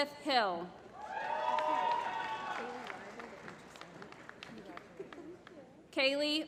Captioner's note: applause